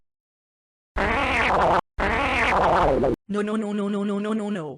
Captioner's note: blowing a raspberry